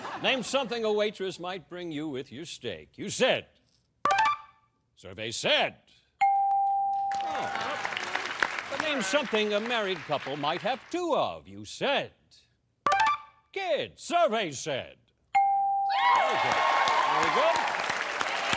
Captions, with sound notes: Name something a waitress might bring you with your steak. You said-- [beeping] Survey said-- [bell] Name something a married couple might have two of. You said kids. Survey said-- Very good. Very good.